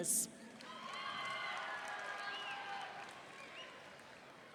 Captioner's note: audience cheering